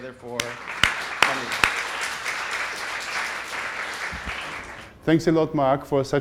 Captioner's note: applause